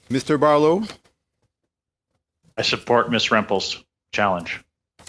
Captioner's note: speaking French